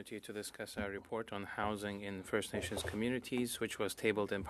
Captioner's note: speaking French